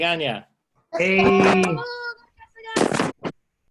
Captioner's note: cheering